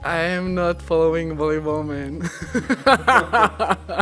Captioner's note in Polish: śmiech